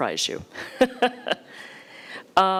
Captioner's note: laughing